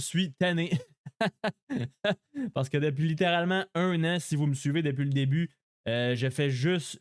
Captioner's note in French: rires